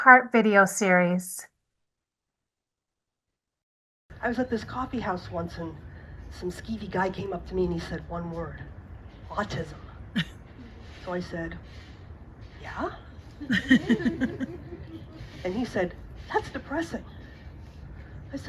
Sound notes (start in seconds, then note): 13.4 audience laughs